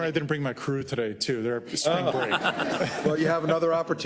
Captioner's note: laugh